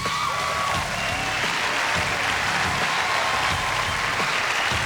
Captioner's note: cheering and applause